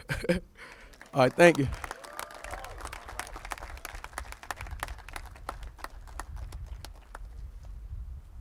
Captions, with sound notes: [LAUGHS] All right thank you. [APPLAUSES]